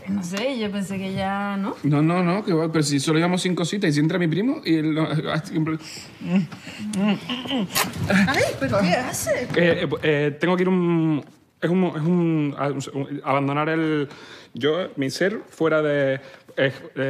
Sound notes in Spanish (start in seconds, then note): 10.3 habla de forma vacilante